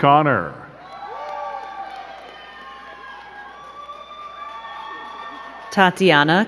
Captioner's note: crowd cheering and clapping